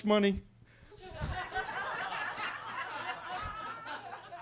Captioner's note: attendees laughing